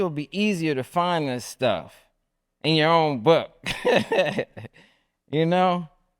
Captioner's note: laughs